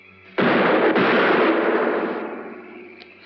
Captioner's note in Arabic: طلقات نارية